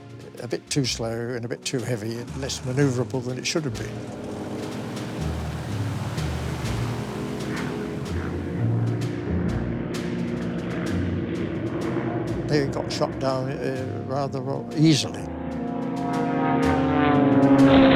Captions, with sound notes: a bit too slower and a bit too heavy, less maneuverable than it should have been. (plane engine roaring) (soft upbeat music) They got shot down rather well easily. (jet engine roaring)